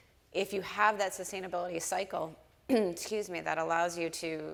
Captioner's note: clears throat